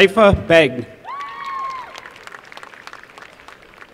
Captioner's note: applause